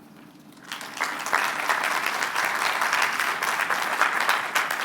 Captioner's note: applause